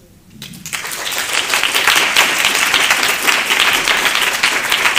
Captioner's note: applause